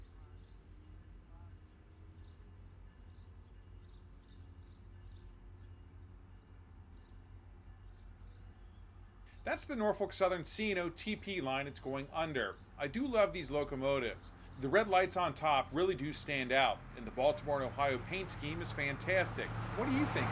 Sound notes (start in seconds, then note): 7.6 birds chirping